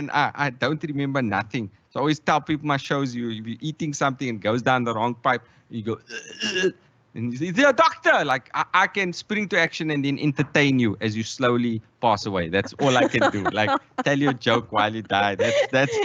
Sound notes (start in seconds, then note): 6.0 makes choking noise